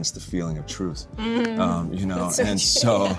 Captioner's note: chuckles